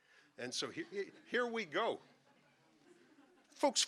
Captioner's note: audience laughing